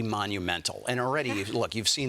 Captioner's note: laughter